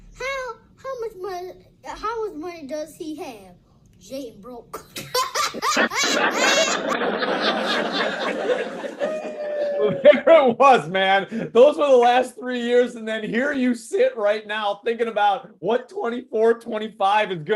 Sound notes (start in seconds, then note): 5.0 laughs